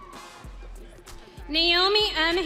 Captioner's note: audience cheering